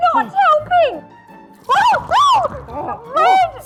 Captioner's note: screaming